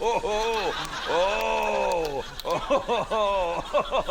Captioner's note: continues laughing